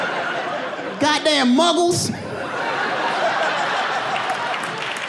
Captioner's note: audience laughing